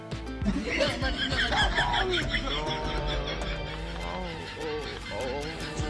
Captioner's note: laughing !